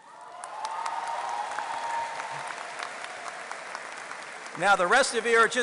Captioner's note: applause